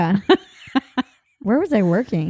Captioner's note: laughing